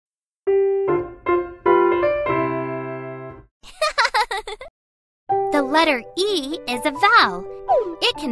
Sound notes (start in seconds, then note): 0.4 lively piano music; 3.6 Reya laughing